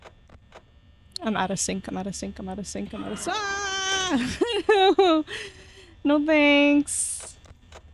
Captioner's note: laughs